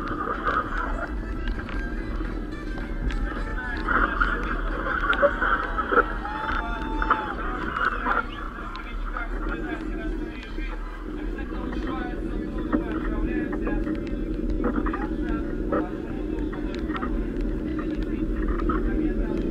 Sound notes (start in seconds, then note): 6.2 shouts of cyclists